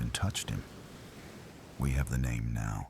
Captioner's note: wind Blowing